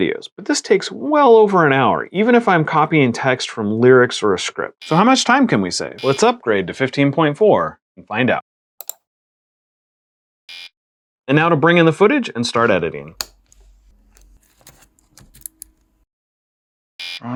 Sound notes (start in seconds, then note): 6.0 buzzer; 8.8 mouse click; 10.5 buzzer; 13.9 camera card slot opens; 17.0 buzzer